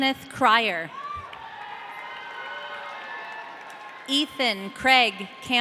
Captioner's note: audience cheering